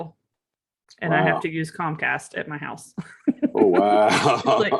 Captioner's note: laughs